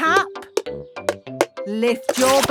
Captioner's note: taping